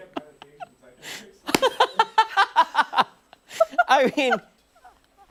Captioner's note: laughter